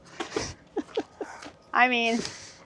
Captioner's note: chuckling